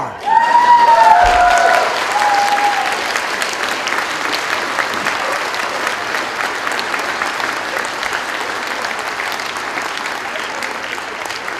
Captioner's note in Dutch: Gejuich, applaus